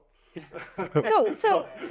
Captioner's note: laughs